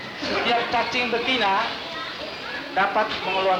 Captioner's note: Indonesian speech